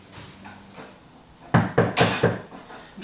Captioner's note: knock knock